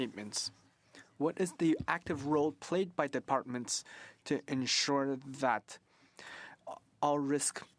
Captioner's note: speaking French